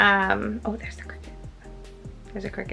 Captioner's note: whispering